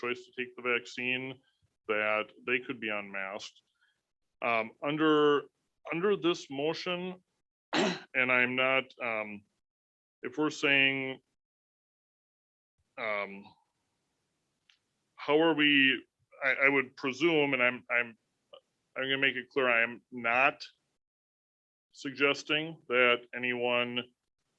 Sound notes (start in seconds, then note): 7.7 clears throat